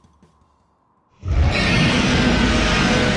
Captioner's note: roars